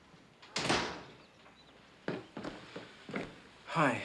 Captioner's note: door clanks